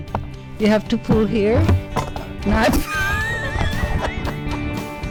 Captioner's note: laughs